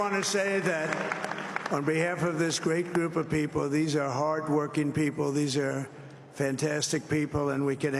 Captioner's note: applause